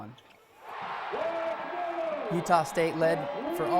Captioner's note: fans screaming